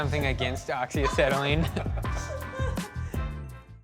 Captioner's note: laughter